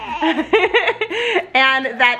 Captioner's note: laughs